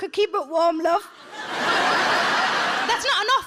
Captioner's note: audience laughs